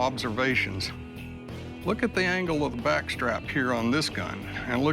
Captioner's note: none